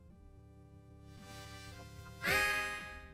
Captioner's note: inhales deeply; sighs